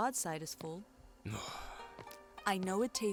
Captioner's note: Kaak sighs